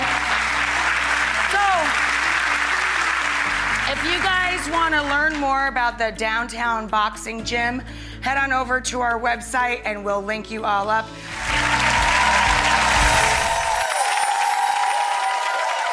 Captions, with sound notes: (audience applause) If you guys wanna learn more about the Downtown Boxing Gym, head on over to our website and we'll link you all up. (audience cheering)